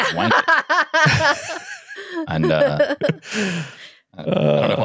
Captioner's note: laughing